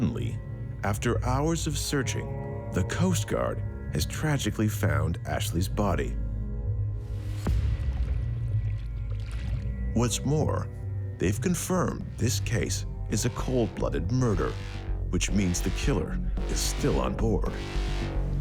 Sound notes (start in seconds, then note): 0.0 people chatting; 7.5 water sloshing